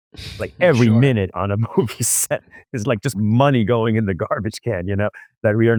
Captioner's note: laughs